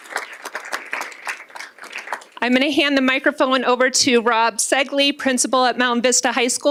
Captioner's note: applause